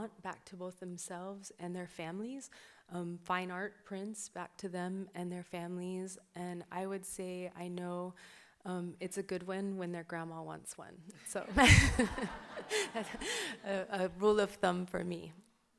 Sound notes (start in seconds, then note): 11.5 audience laughs; 11.5 laughs